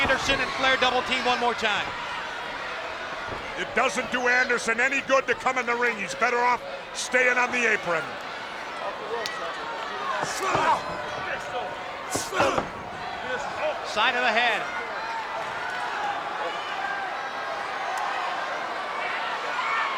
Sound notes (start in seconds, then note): 10.2 blows thudding; 16.6 crowd cheering